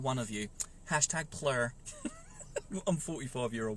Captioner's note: laughs